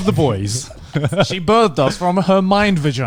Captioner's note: laughing; all laughing